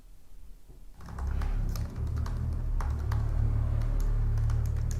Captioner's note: keyboard clacks